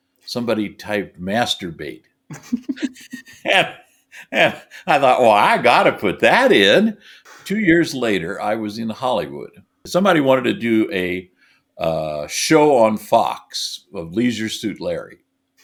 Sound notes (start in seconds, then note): 2.3 laughing sophomorically